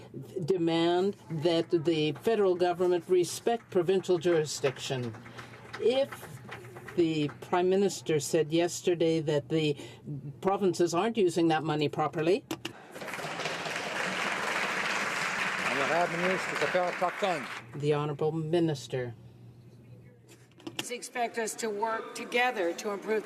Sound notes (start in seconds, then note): 17.7 some Applause